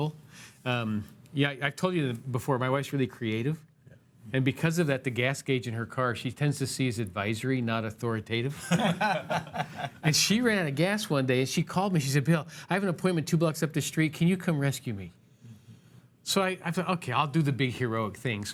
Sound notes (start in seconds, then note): 8.6 laughs